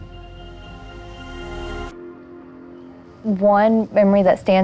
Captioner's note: single note hums